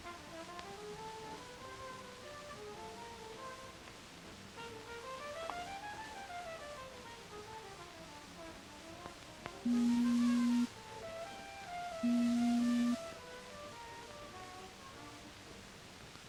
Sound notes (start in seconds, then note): 0.0 jazzy instrumental music; 9.7 beeping